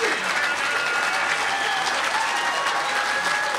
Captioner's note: crowd continues cheering and clapping